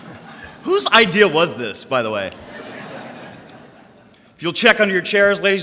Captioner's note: audience laughter